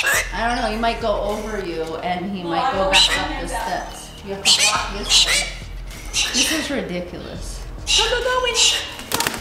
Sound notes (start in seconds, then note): 0.0 bird squawking; 5.4 bird squawking